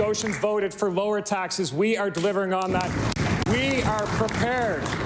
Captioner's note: applause